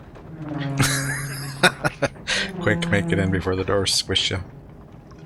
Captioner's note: laughing